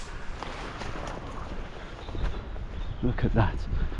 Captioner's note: birds chirping